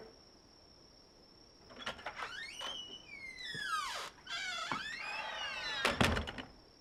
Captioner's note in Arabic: صرير الباب مفتوحًا ومغلقًا